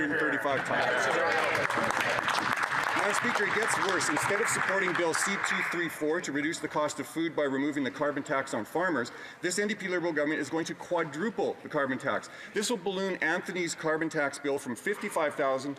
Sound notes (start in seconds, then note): 3.9 some Applause